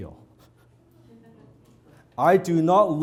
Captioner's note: crowd murmurs